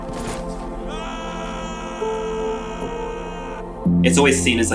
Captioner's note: horse galloping; man screaming